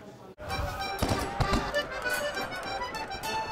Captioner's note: cannons firing